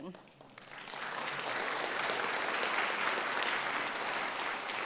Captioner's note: audience applauds